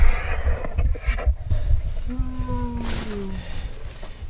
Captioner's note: animal panting; animal groaning